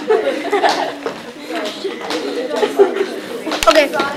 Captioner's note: chatter